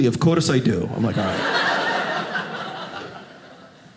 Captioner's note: audience laughing